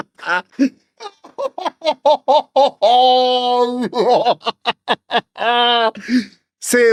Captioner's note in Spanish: risas